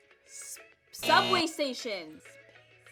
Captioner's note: buzzer ringing